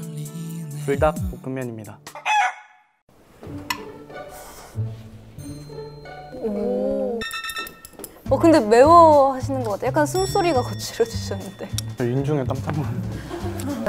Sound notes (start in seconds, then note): 4.2 slurp